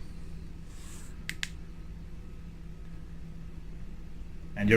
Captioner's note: clicks button